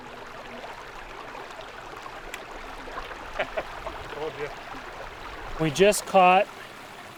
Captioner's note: water rippling